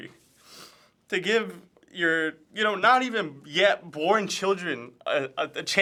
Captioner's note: sniffling